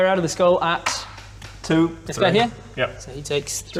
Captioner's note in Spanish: Tirar dados